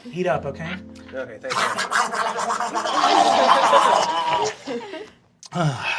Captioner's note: feral goblin gobbling noises